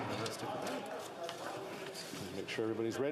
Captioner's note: speaking French